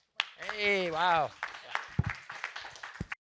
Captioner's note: applause